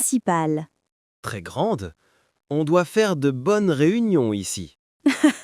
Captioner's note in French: rire